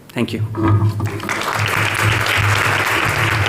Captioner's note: applause